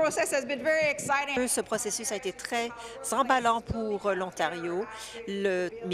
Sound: speaking in French

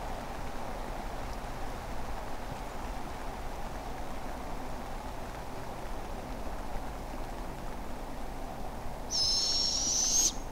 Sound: barred owlet screech

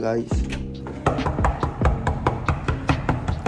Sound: knocking; still knocking

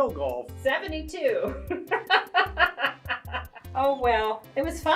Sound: chuckles; laughs

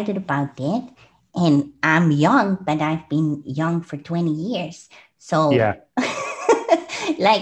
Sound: laughs

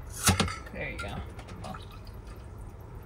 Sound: can thumping; liquid sloshing

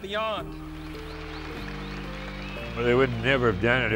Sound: crowd cheering and applauding

